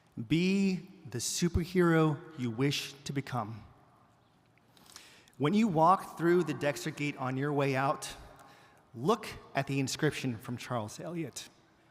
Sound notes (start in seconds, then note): none